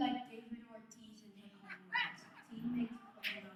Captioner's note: audience laughs